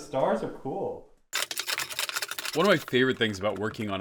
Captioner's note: sped up sounds